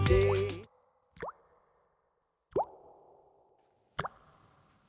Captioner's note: water dripping